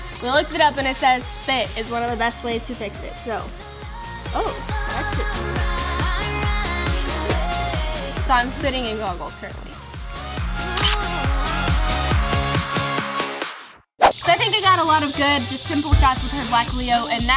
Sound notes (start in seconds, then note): 5.9 upbeat music; 10.8 camera clicking; 11.6 upbeat music